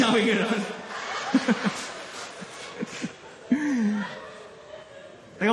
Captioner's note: chuckles; laughter